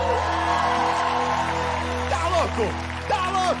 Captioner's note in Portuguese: ovação